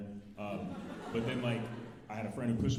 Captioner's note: alumni laughing